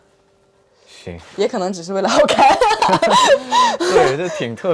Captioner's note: laugh